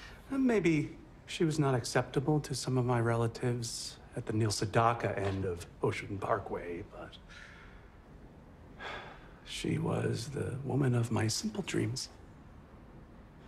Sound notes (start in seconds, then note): 8.8 sighs